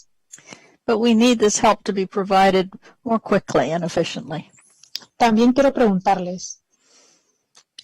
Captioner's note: speaking spanish